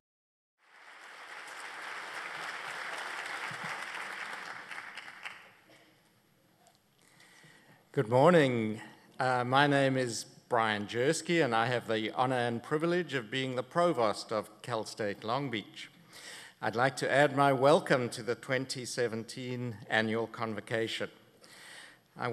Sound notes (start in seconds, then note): 0.6 applause